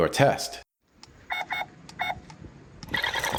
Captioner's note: robot beeping!; vroom!